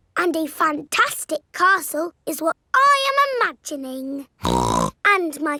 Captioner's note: snorts